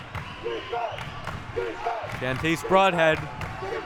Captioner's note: clapping